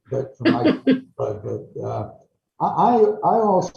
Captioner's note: chuckles